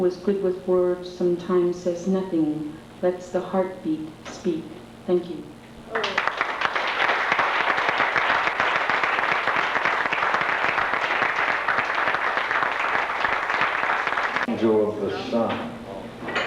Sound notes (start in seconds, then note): 5.9 applause